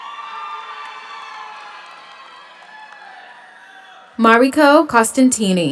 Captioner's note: audience applauds; audience cheers